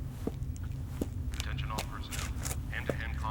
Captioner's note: man On PA